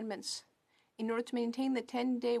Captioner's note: speaking French